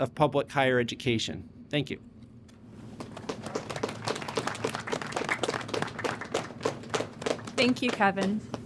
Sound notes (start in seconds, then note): 2.9 applause